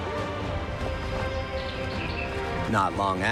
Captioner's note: birds chirping